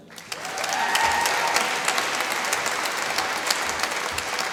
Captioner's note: applause